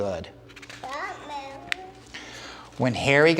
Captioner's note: child speaking